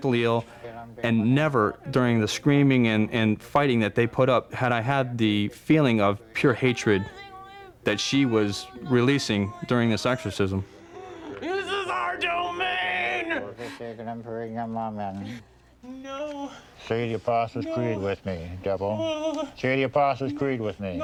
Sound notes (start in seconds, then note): 13.5 praying in latin